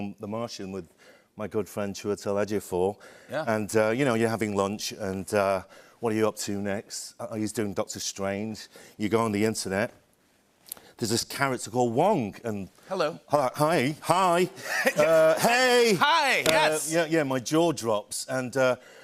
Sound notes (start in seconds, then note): 14.6 laughter